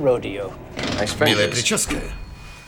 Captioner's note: dings